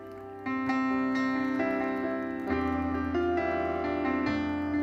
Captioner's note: audience applauding; gentle uplifting music continues